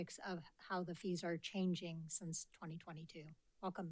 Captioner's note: none